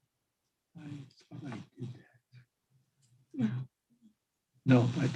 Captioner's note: faintly speaking